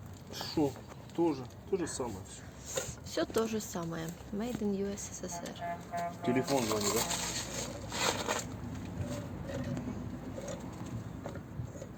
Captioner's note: laughs